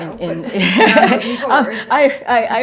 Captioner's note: laughter